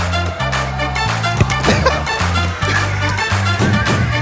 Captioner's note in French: rires